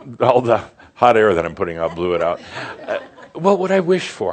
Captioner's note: some chuckles